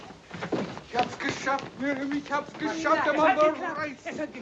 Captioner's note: speaking foreign language